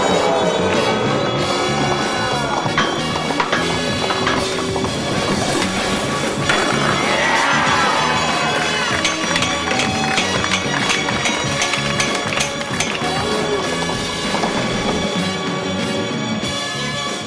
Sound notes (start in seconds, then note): 11.8 laughs